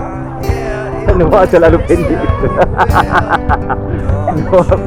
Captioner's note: laugh